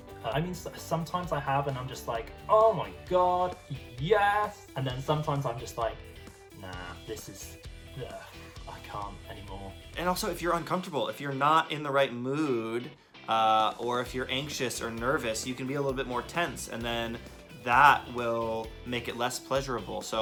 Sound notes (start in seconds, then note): 7.7 sighs